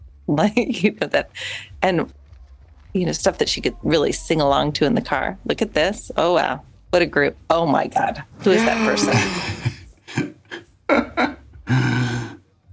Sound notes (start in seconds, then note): 0.2 chuckles; 8.3 gasps; 8.4 laughs